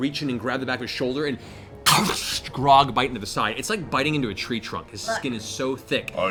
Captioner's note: crunching sound